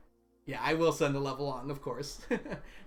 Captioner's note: laughs